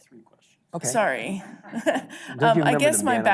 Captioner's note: chuckles